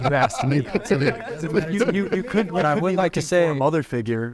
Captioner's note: everyone laughing